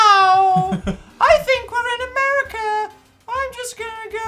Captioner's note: high pitched voice